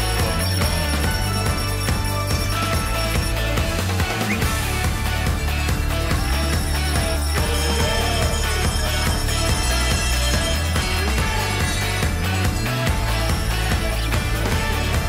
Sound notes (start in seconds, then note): 0.0 bells Ringing